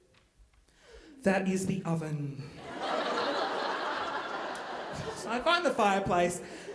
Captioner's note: audience laughing